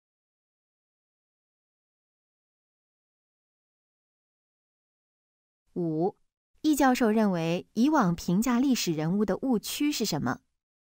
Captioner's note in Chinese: 空白_音频